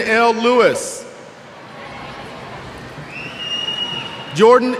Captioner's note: cheers